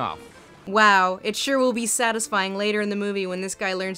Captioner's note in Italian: voce fuori campo